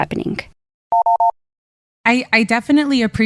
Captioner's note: phone buttons beeping